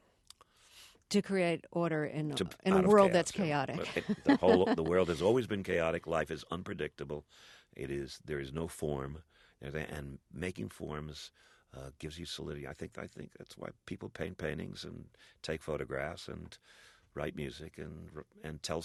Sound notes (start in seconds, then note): 5.4 soundbite of laughter